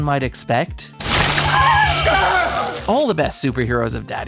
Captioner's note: screaming